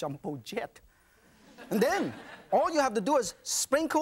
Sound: audience laughs

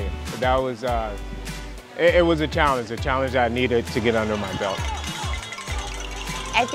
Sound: crowd walking, happy

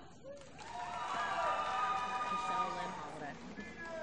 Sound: applause

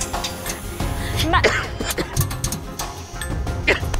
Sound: coughing

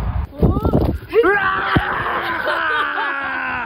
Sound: screaming

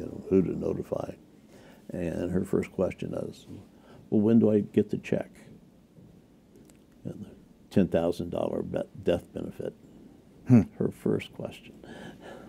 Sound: tearfully

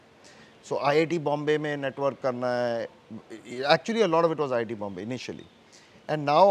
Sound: Hindi spoken

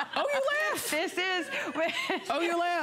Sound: laughter

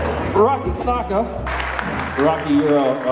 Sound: audience applauds

